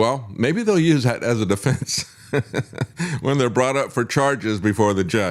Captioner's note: laughs